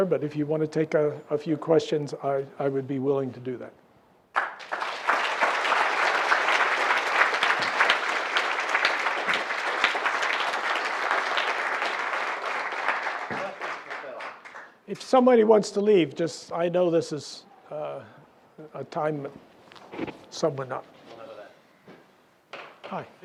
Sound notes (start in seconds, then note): 4.1 applause